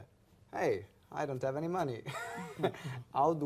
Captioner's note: laughs